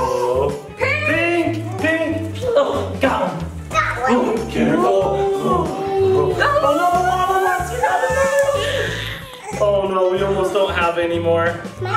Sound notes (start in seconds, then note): 8.7 lava monster screeching